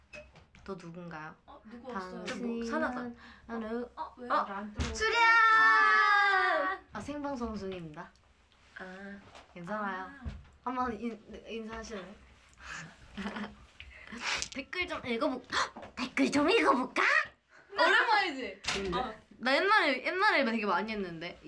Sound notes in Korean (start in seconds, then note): 14.0 훌쩍